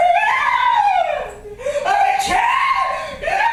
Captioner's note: screaming